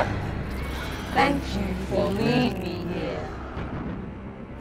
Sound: evil laughter; distorted voice

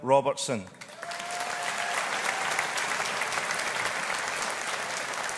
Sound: audience applauding

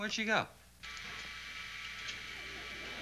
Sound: buzzing

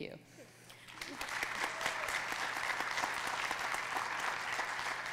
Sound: audience clapping

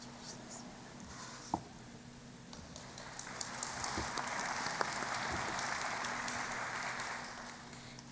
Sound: applause

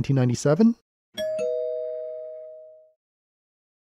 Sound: ding Dong

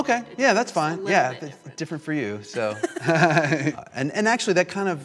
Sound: laughs

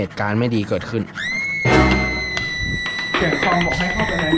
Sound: there comes the screaming sound

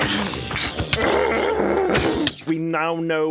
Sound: anger noises

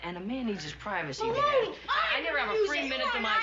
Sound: kids yelling

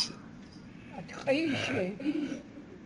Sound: non-english speech

